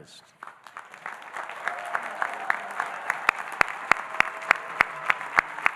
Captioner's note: audience applauding and cheering